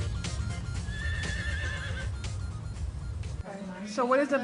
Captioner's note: horse whinny